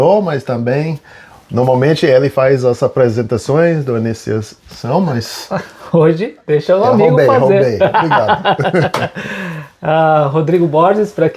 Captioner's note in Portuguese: risadas